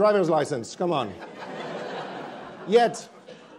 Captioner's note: attendees laughing